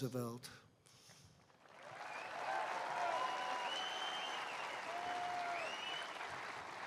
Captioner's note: applause